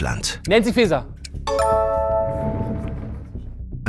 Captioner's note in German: Klingeln